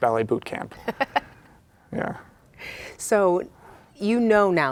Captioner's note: laughing